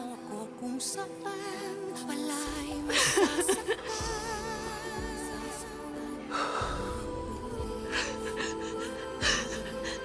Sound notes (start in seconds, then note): 2.8 cristine sobbing